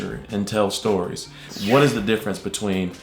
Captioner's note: swoosh